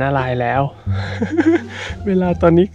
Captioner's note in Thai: ขำ